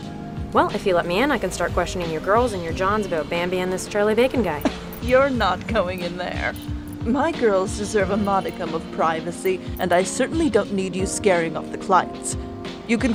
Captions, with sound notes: Well, if you let me in I can start questioning your girls and your johns about Bambi in this Charlie Bacon guy. [Laughs] You're not going in there. My girls deserve a modicum of privacy, and I certainly don't need you scaring off the clients.